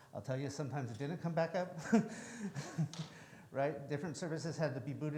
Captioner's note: chuckles